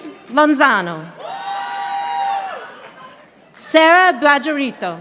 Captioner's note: audience applauding